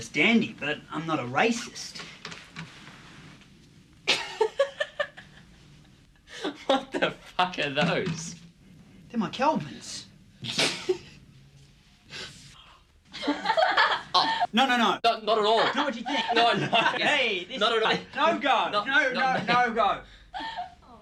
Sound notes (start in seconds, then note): 4.4 Gene laughs; 11.9 Gene snickers; 13.3 girls laughing